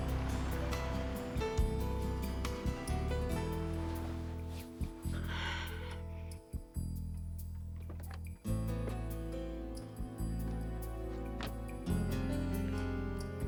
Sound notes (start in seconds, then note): 4.8 sighs